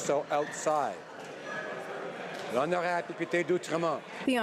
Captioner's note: chanting